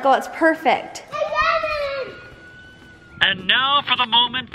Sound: yells

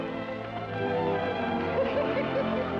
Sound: laughing

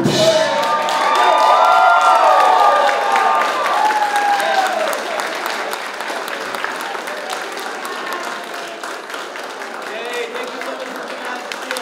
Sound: applause

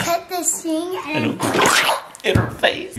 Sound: splatting sound effect

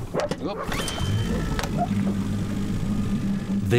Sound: engine starts

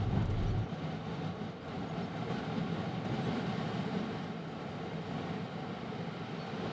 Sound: plane engine roaring

